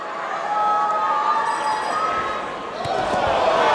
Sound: bell rings

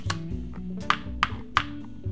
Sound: cards flipping; game piece clicking

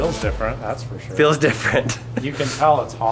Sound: laughs

